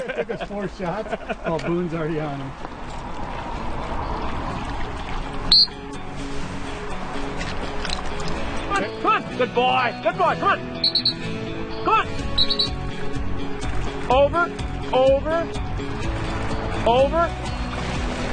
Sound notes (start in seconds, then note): 5.5 dog whistle; 12.3 dog whistle